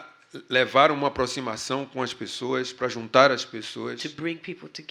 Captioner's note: speaking portuguese